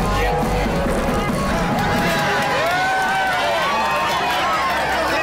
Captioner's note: cheers and applause